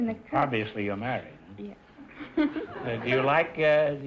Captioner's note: laughing